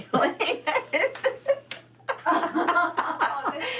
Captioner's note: laughing